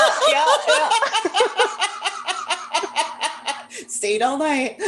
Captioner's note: laughter